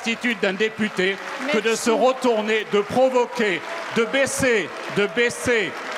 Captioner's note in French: bruyantes protestations